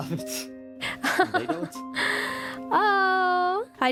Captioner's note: ROSE laughs